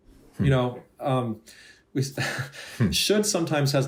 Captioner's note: chuckling